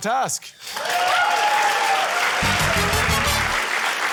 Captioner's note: cheering, applause